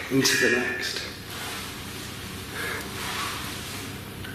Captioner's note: Ovilus goes off